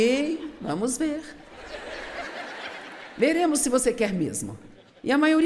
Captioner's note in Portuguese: audiência ri